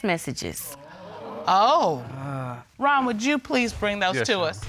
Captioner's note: audience exclaims